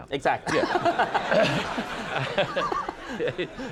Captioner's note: laughter